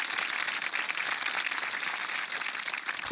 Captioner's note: applause